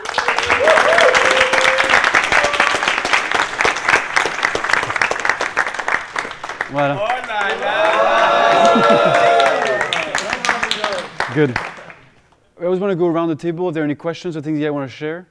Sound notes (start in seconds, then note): 0.0 applause; 7.2 cheering